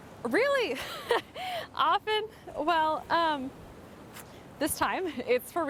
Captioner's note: laughs